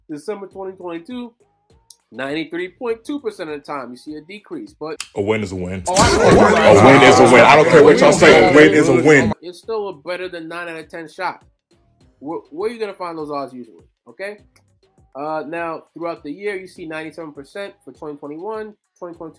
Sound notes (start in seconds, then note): 5.8 people cheer